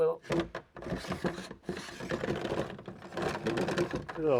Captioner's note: drilling